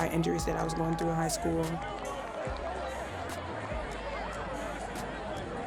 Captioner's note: audience chatters